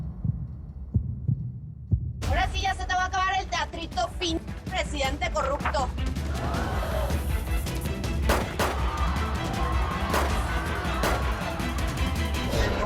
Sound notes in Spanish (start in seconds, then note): 8.2 Disparos; 8.8 Gritos; 10.0 Disparos